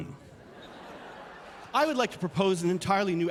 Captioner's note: laughter